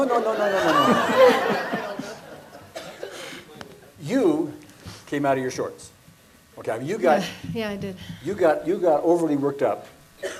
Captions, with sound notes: - No, no, no, no, no, no, no, no, no, no, no, no. (audience laughs) You came out of your shorts. Okay, you got-- - Yeah, I did. - You got overly worked up.